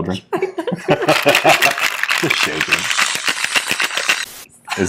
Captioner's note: laughing